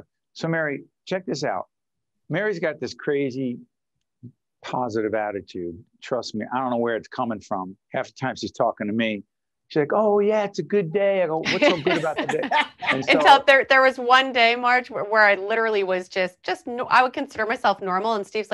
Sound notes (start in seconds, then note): 11.5 laughing